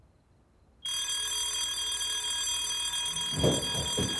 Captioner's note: ringing